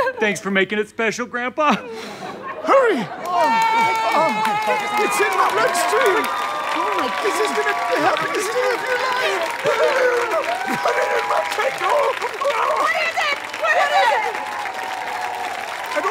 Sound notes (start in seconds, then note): 1.8 audience laughter; 5.0 audience cheering